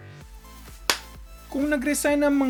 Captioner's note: clap!